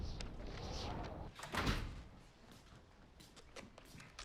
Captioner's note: door closes